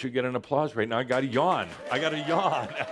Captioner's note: audience applause